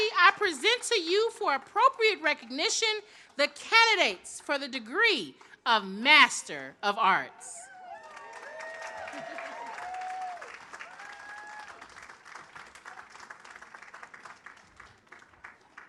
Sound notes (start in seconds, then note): 7.7 audience applauds